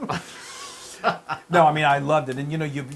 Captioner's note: laugh